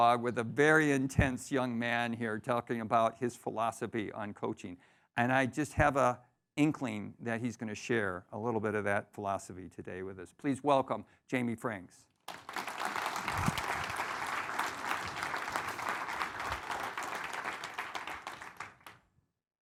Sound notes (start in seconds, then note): 12.2 audience applauding